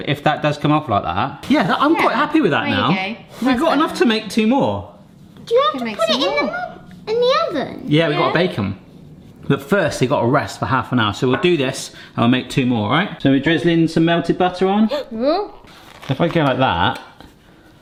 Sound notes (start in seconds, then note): 14.8 gasps